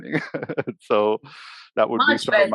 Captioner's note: laughs